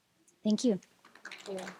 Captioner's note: applause